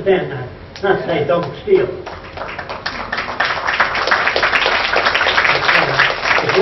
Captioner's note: applause